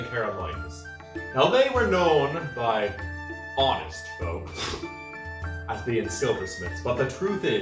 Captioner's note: scoffs